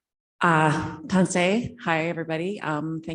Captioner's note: speaking foreign language